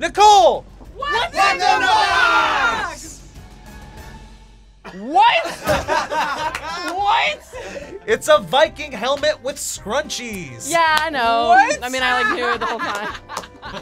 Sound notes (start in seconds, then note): 4.8 group laughs